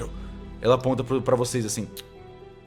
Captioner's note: clicks tongue